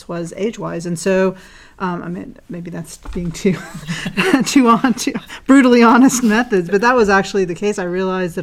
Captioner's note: laugh